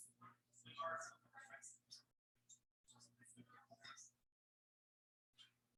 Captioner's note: people chattering indistinctly